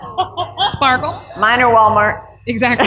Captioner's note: laughter